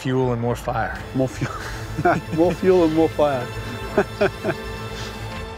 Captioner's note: chuckles